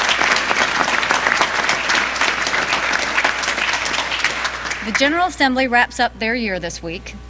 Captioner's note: applause